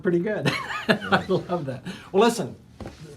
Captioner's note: laughing